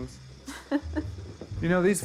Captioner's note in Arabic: جوان تضحك